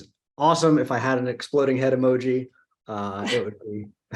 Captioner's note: chuckles